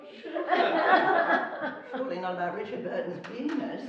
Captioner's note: laughing